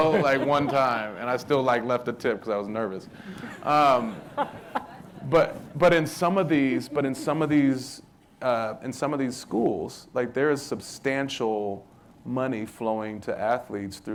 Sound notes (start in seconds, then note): 3.1 crowd laughing